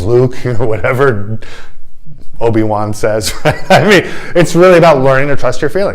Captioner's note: laughter